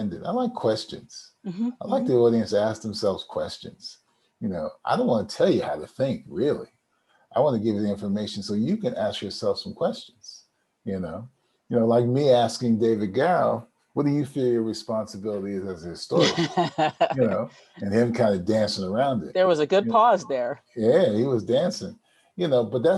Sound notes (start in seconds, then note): 16.1 laughs